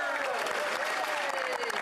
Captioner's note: speaking French